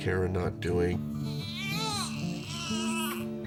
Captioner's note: baby crying